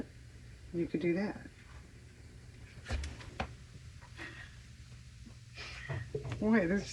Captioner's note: laughs